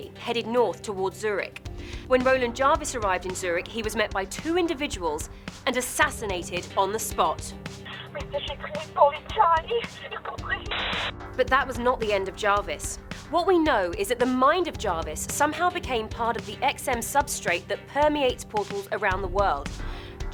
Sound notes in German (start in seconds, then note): 8.0 Frauenstimme in einer Fremdsprache; 8.0 Voiceover